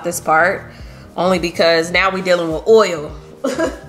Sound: chuckles

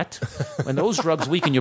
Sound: laughter

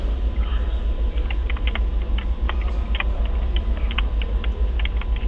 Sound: keyboard clacking

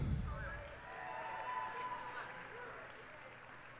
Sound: cheers and applause

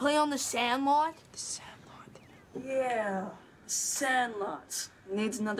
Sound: whispering

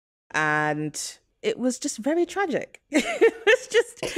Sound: laughter

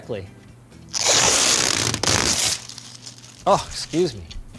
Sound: film rips

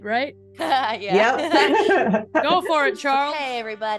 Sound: laugh

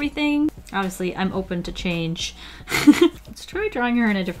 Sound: laughs

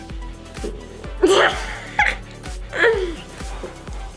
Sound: laughs

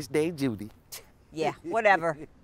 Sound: scoffs

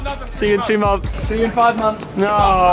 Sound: laughing

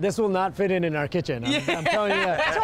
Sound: laughing

